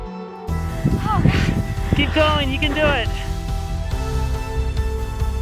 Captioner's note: breathing heavily